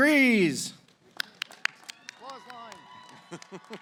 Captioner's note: applause